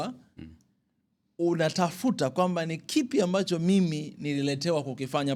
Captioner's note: clears throat